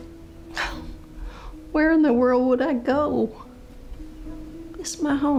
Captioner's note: scoffs